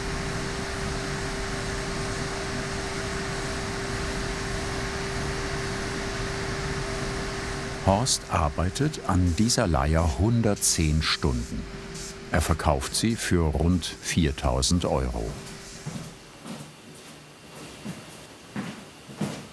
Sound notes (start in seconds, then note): 15.8 approaching steps